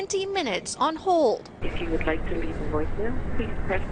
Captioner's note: recorded voice